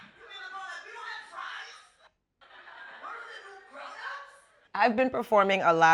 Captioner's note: background talking on phone